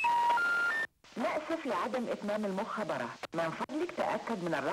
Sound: Arabic spoken audio

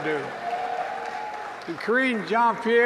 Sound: applause

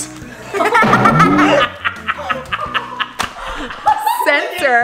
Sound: group laughing loudly

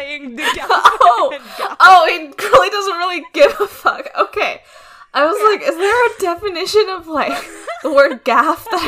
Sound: laughing

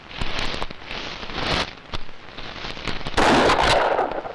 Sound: gunshot

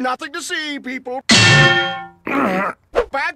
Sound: bang!

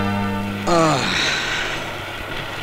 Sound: sighs

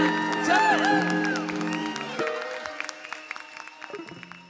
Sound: applause

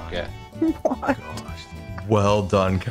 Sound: laughs

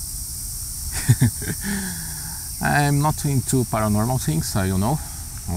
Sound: giggling

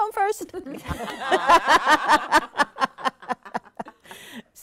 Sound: all laughing

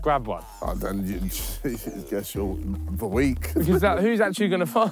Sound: scoffs

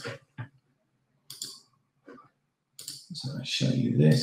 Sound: mouse clicking

